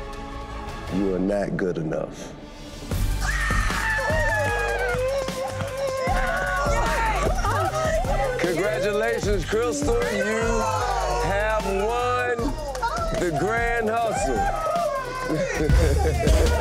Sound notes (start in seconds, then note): 3.2 screaming; 5.6 cheering; 15.1 cheering continues; 15.1 laughing